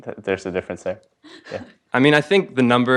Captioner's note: laugh